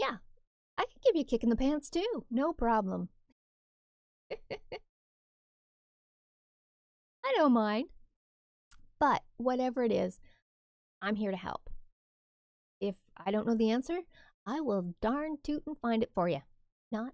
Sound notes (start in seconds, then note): 4.3 laugh